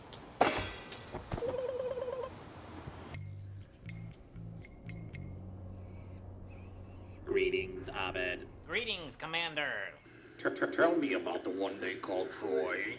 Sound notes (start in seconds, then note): 1.1 ABED makes "alien" noises